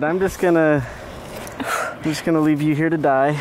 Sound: exhales; exhales quickly

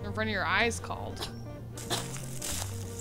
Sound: coughs

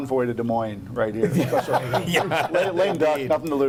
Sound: laughing

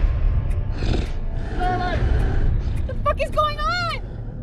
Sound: creature growling

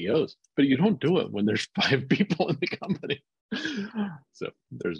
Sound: laughs

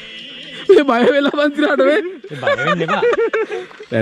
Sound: laughing

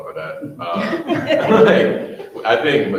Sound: all laughing loudly

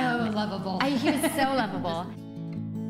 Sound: laughter

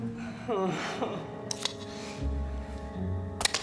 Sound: groans

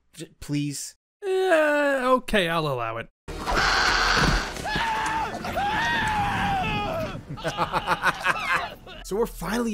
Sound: laughing

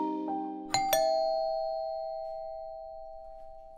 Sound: ring bells

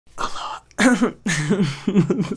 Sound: laughs; clears throat

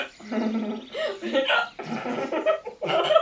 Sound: hysterical laughter

